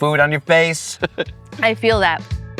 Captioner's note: laughs